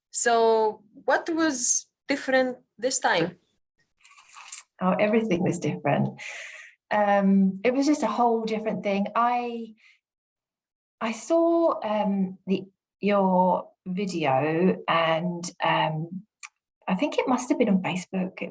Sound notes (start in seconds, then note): 6.2 inhales deeply